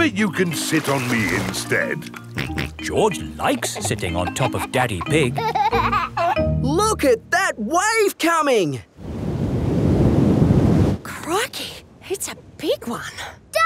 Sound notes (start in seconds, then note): 2.3 snorts; 5.8 giggling